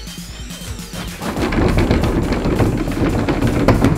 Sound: knob shakes

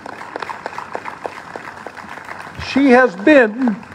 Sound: applause

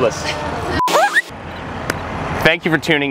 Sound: record scratch

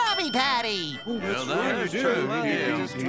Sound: chattering

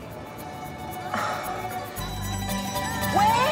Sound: groans

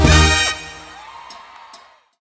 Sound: applause

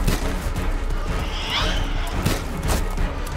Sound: creature shrieks

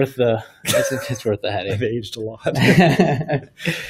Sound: laughing

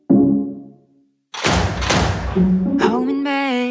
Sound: reloading sounds

